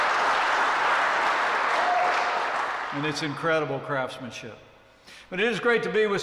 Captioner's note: applause